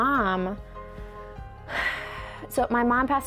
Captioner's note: sighs